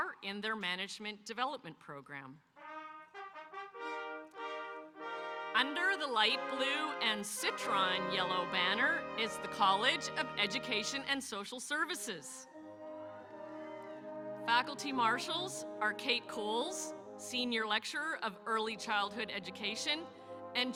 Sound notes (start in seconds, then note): 2.6 regal music; 12.5 audience cheering